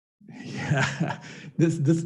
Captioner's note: chuckles